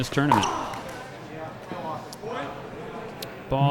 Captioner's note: grunting